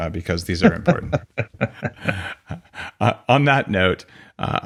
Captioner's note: both laugh